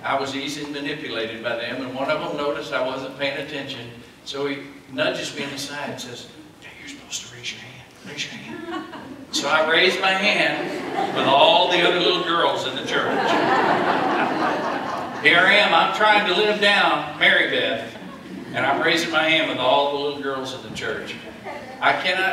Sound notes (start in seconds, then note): 12.9 laughter